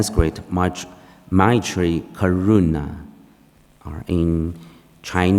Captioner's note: speaking foreign language